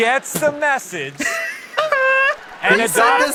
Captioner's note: laughs in standards